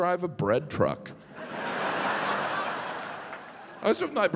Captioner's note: audience laughing